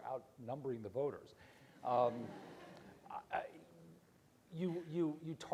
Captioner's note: audience laughs